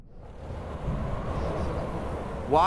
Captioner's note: wooshing